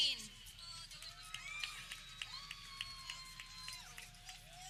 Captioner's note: people clapping